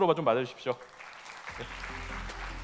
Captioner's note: applause